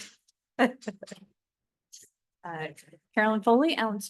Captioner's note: laughter